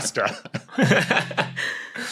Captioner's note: giggles